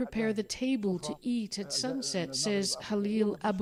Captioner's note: speaking alternate language